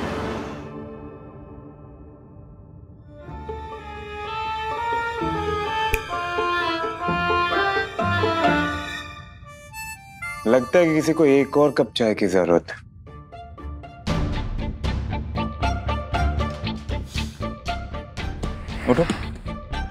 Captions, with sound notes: [snaps fingers] Looks like someone needs another cup of tea. [cheerful music playing] Get up.